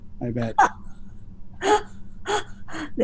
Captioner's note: laughs